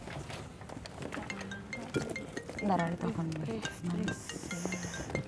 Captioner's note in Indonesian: Telfon Berdering